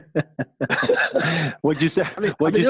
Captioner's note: laughing